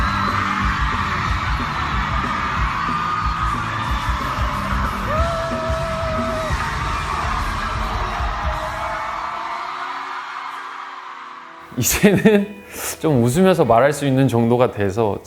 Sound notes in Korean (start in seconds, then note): 2.3 팬들의 목소리